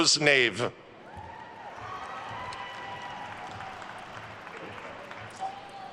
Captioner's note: attendees cheering and applauding